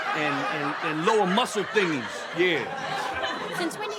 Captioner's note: audience laughing